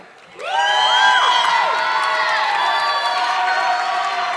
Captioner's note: audience clapping